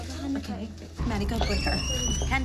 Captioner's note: door squeaks